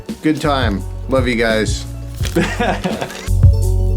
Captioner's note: laughing; upbeat music